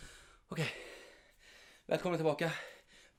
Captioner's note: heavy breathing